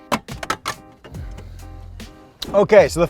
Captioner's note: cup holder clatters